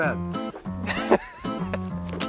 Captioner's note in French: rires